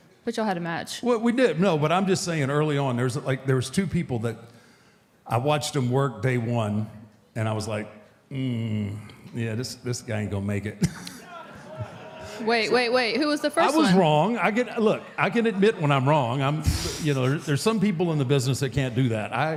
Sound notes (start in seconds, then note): 10.7 chuckles